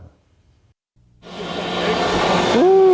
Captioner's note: loud whirring